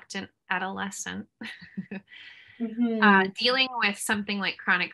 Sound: laughter

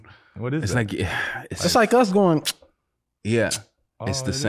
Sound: smacks lips

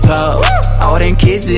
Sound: whoo!

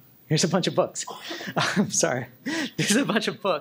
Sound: chuckles

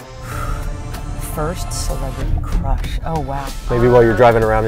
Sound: exhales

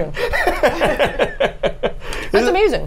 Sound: laughs

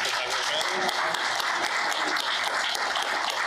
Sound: applause

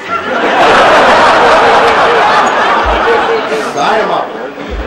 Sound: laughter

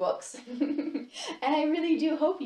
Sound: laughs

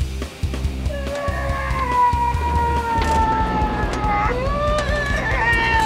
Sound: yelling

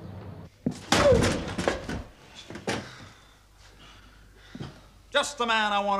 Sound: furniture clattering

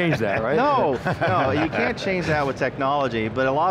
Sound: laughing

